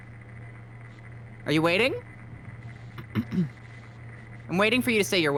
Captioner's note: clears her throat